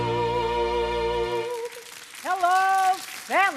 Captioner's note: audience applauding